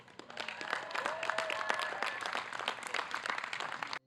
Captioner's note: applause